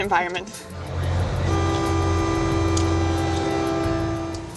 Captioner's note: horn